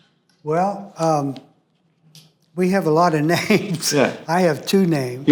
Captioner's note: laughs